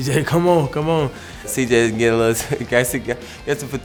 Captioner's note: chuckles